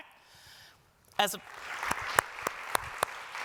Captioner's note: applause